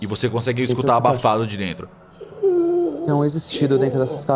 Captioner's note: breathing